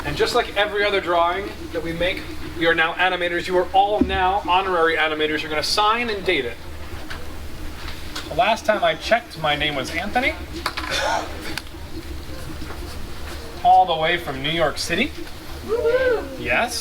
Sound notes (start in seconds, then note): 10.8 coughs; 15.6 crowd cheers